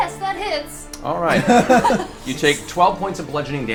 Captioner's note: all laugh